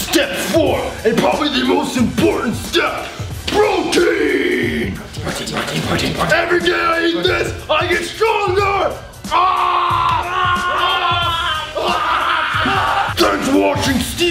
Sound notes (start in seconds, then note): 9.2 all yelling